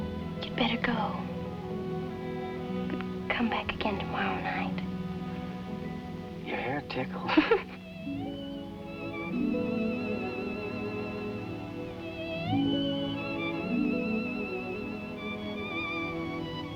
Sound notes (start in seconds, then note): 7.2 giggles